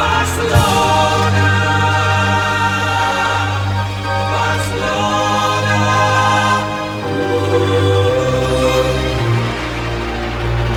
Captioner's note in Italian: Applauso